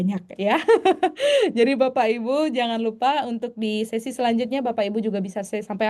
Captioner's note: tertawa